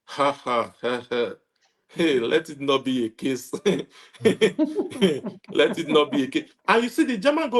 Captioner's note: laughs